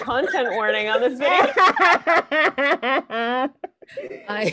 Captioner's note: all laughing